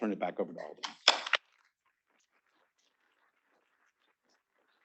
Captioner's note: students clapping